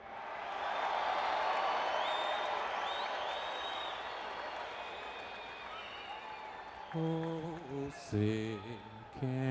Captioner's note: crowd cheering